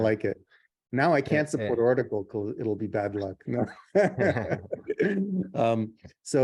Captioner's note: laughs